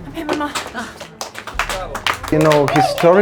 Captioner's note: clapping